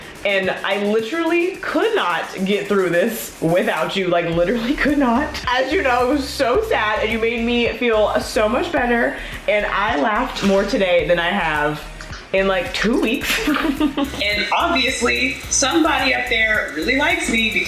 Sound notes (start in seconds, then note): 13.1 laughs happily